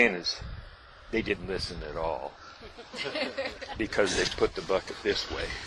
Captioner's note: laughter